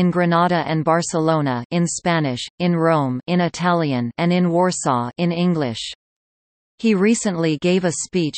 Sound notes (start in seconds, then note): 1.7 in Spanish; 3.5 in Italian